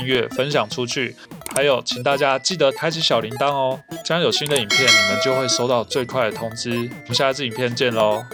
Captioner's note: small bell